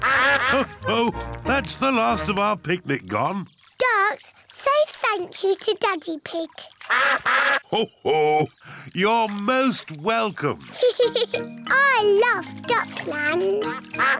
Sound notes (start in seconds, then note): 6.8 all quack; 10.7 giggles